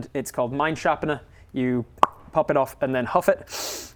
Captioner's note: pop